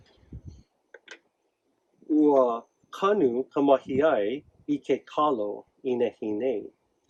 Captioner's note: speaks in native language